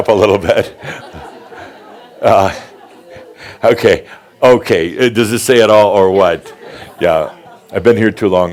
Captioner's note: Adamus chuckles; laughter, as Adamus cuts in right away